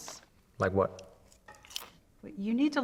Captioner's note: chip crunching